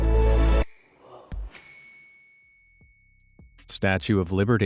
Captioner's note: twinkling star effect